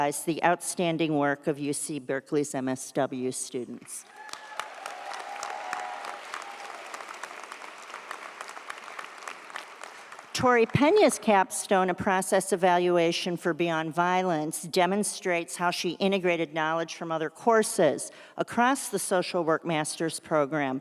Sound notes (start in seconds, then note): 4.0 audience cheers; 4.0 audience applauds